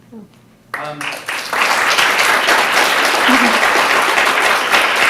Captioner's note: audience applauding